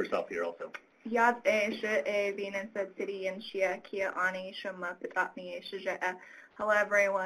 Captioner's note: speaking foreign language